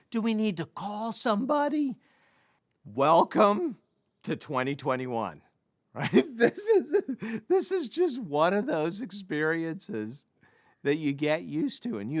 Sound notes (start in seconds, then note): 6.0 laughs